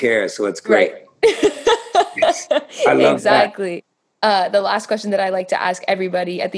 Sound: laughter

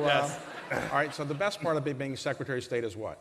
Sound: laughter

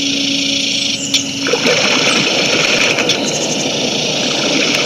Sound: water sloshes

